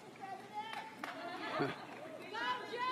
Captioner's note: applause